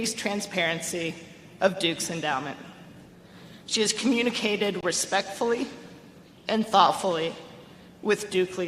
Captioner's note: none